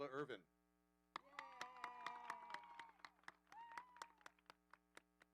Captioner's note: audience applauding